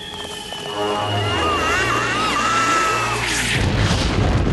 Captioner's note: scream